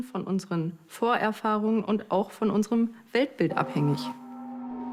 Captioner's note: speaks in German